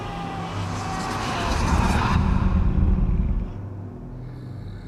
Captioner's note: creature growls